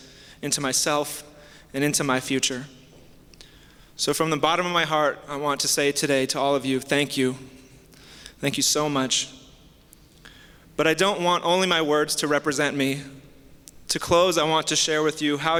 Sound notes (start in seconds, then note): none